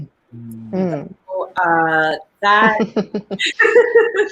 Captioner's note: group moaning in agreement; laughing